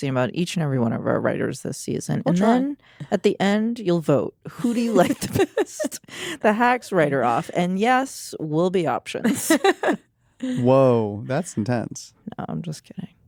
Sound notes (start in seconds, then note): 4.6 chuckles; 9.2 laughs